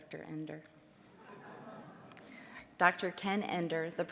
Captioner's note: audience laughing